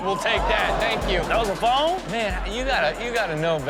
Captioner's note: audience gasps